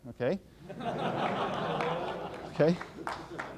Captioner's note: laughter